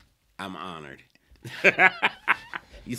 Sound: laughs

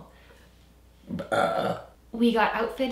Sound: burps

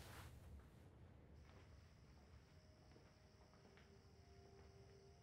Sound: crickets chirring

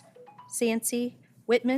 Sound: cellphone ringing

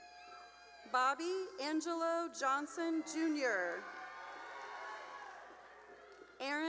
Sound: cheering; cheering

